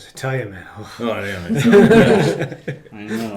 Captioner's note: group laughing